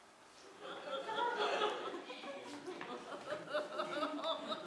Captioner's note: laughter